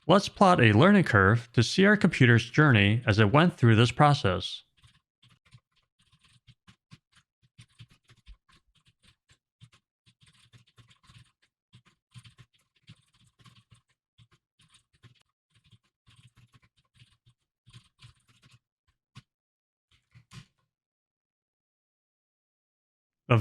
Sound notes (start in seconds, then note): 10.4 typing sounds